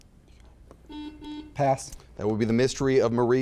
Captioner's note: buzzer beeping